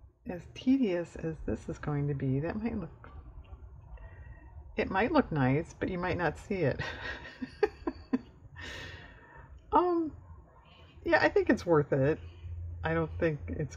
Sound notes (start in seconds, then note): 6.8 laughs